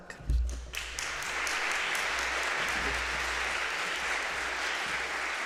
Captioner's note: audience applauding